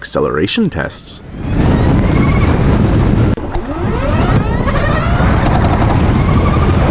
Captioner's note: Unique Harley Davidson Electric Motor Sound